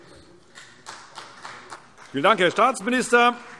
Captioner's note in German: Beifall CDU